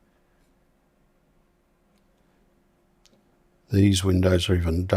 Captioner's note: silence